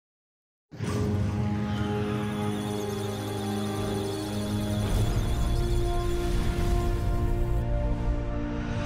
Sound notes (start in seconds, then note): 1.7 musical tones; 1.8 electronic sounds of data